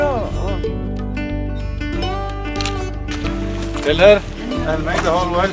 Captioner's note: speaks in foreign language – not transcribed